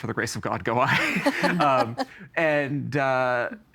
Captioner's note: all laughing